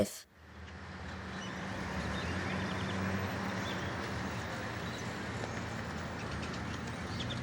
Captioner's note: birds chirping in background